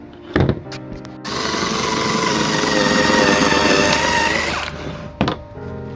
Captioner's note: slicer motor running